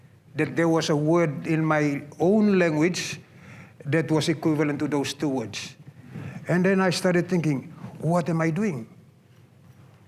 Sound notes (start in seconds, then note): none